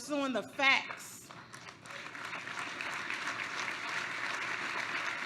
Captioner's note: applause